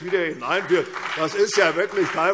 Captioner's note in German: Beifall CDU und BÜNDNIS 90/DIE GRÜNEN